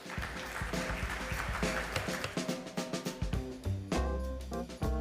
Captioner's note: audience applause; jazzy music